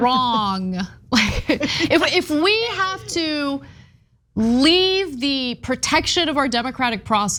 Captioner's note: laugh